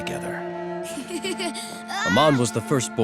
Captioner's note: laughing